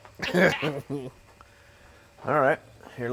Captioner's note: both chuckle